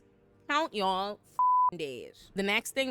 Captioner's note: beep